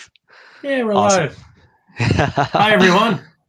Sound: laughing

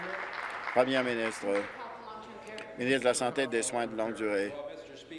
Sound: applause

